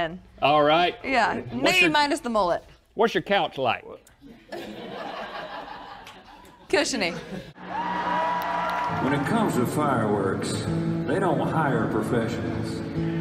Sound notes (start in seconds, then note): 4.3 laughter; 7.5 crowd cheering